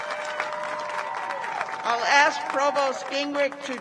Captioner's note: cheers and applause